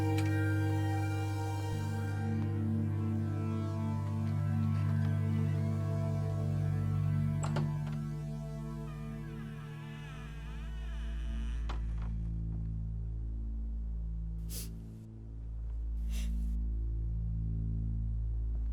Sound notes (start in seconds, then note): 8.8 door creaking; 11.2 suspenseful music; 14.5 Ellie sniffing